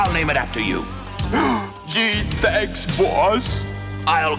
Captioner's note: gasp